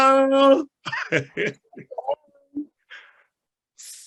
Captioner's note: laughs